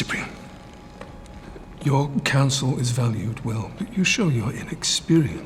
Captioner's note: none